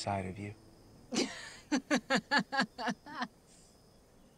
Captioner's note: Clive laughing scornfully